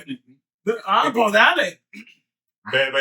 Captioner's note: speaking In Foreign Language